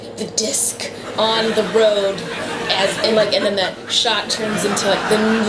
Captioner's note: laughter